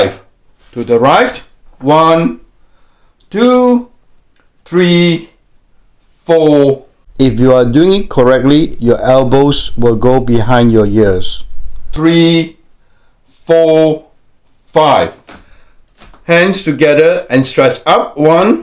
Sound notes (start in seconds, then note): 9.5 voiceover